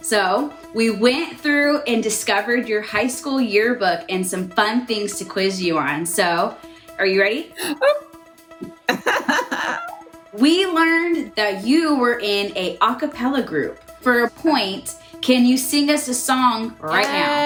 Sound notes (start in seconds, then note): 8.7 laughing